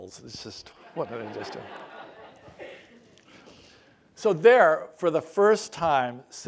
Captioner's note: laugh